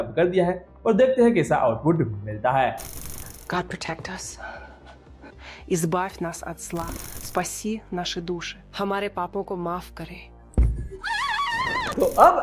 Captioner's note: dubbed audio plays in multiple languages